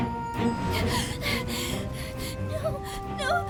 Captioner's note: Molly hyperventilating